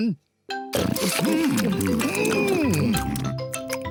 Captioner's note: all chomping